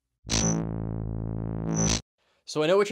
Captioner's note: buzzing